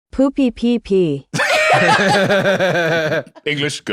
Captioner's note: all laughing